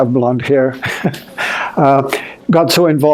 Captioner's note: chuckling